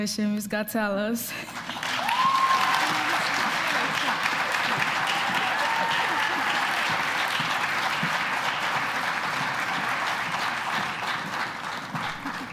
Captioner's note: applause